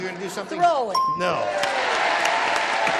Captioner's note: ding; applause